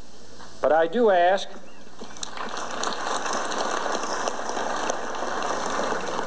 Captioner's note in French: applaudissements